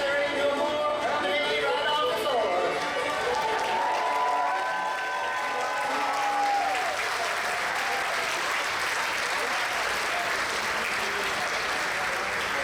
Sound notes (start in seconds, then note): 2.7 audience applause and cheers